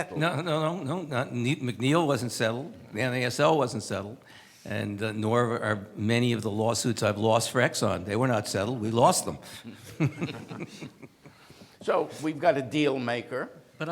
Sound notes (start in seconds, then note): 9.5 laughs